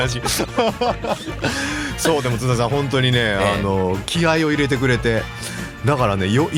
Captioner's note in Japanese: 笑い